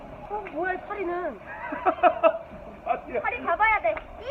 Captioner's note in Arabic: يضحك